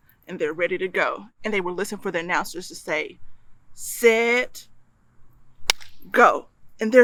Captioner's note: clap